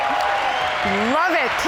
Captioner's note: huge applause